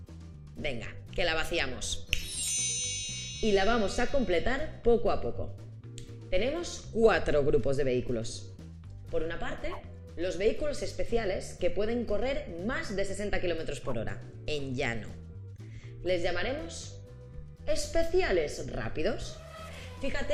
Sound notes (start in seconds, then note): none